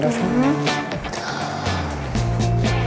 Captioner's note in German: Luftschnappen